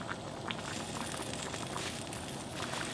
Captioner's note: bubbling sounds